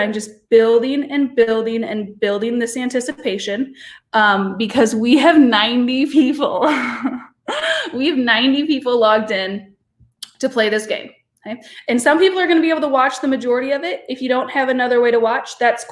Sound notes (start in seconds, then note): 6.7 chuckles